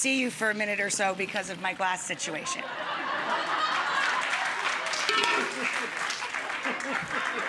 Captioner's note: audience laughs and applauds